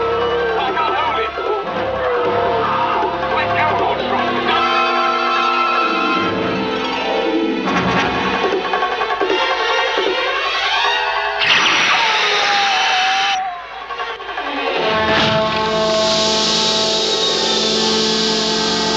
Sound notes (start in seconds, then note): 4.8 música dramática; 11.6 Jim grita; 13.8 música dramática